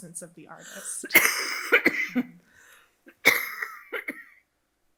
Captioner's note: coughing